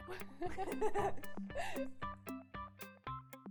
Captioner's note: upbeat music; laughs